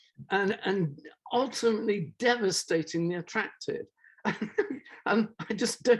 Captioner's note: laughs